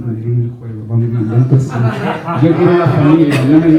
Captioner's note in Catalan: rialles